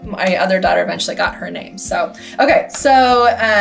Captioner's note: claps